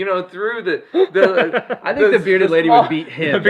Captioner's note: laughing